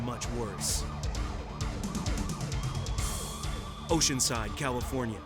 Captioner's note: sirens blaring